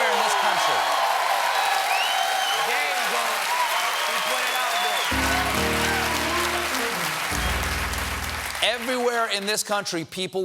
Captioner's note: applause